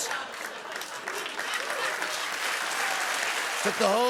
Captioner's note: cheers and applause